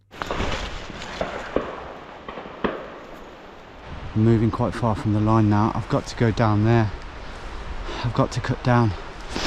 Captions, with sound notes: (guns banging) Moving quite far from the line now. I've got to go down there. I've got to cut down.